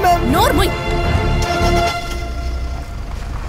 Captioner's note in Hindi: इंजन शुरू होता है